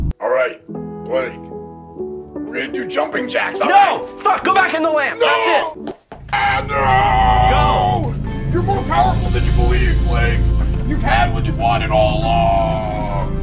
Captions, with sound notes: Alright. Blake, we're going to do jumping jacks- NO F**k. Go back in the lamp! (clicks heels) ahhhhhh nooooo GO You're more powerful than you believe, Blake. You've had what you've wanted all along